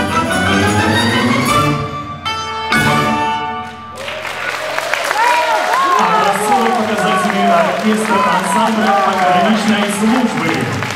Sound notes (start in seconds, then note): 3.6 applause, shouts of "Bravo!"